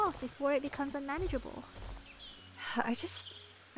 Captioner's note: sighs